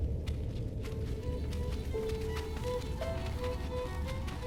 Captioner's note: feathers ruffling; tense classical music